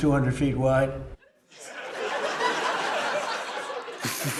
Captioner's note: laughter